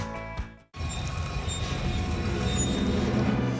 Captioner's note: grinding metal